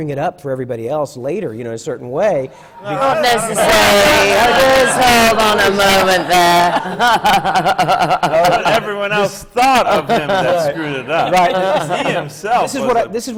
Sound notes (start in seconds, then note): 2.9 laughter; 8.5 laughs